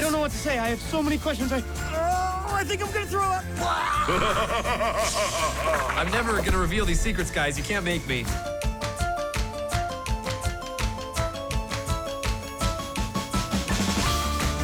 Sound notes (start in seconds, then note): 3.6 time baby laughs evilly; 3.7 vomiting